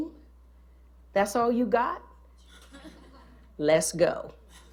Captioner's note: laughter